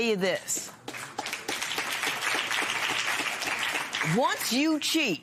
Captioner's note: applause